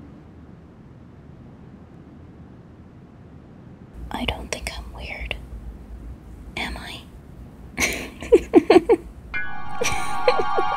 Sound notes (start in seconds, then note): 4.3 whispers; 7.8 laughs